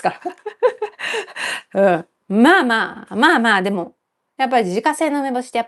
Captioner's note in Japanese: 笑い; 息をのむ音